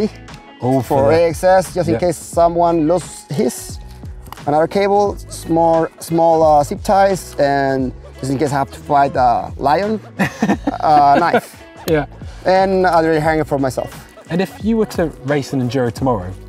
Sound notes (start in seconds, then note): 9.9 laugh